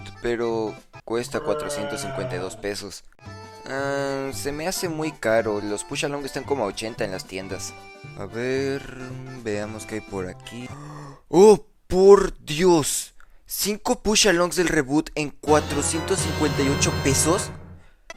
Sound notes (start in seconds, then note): 10.6 suspiro